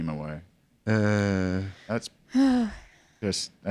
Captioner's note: sigh